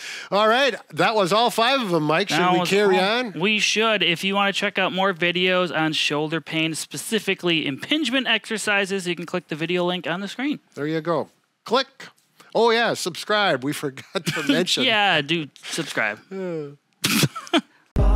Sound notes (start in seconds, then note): 16.3 sighs; 17.0 laughs